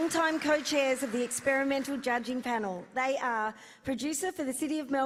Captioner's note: applause